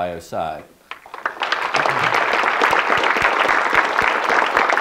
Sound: audience clapping

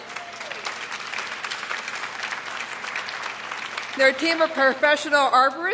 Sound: cheers and applause

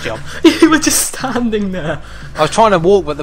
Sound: laughing

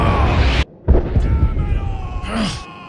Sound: Vegeta's voice; distant explosion

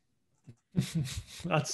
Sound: laughs

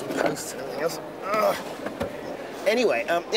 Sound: grunts

